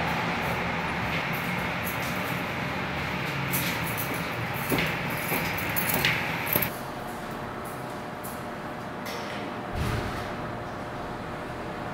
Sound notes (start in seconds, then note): 1.0 key sounds; 4.5 footsteps